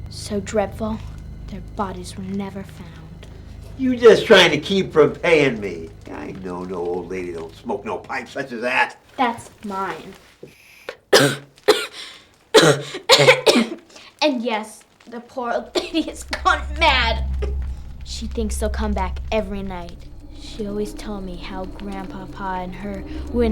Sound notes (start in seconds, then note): 10.3 inhales pipe; 12.5 coughs